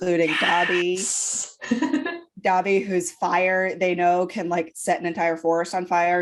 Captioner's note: creepily fake whispering